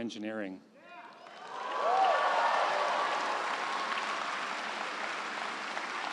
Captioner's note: crowd cheering and applauding